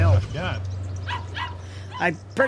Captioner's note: dog barking